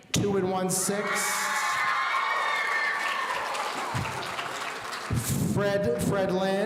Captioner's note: audience cheering